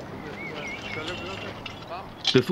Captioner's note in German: Arbeitsgeräusche